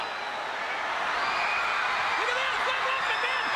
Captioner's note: crowd cheers